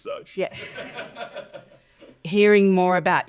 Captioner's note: audience laughing